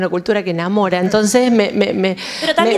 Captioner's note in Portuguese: Risos